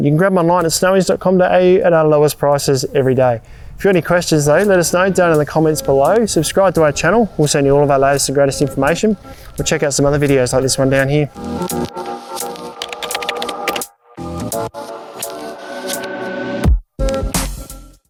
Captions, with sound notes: and you can grab them online at snowys.com.au at our lowest prices every day. If you've got any questions though, let us know down in the comments below. Subscribe to our channel, we'll send you all of our latest and greatest information, or check out some other videos like this one down here. (typing) (smooth music)